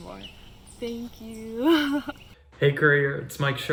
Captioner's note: laughs